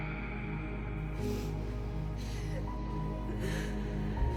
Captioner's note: cries